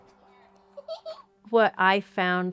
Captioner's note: child chuckles